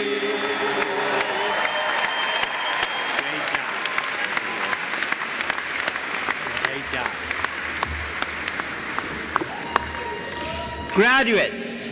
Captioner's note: applause